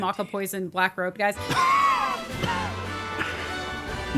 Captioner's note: coughing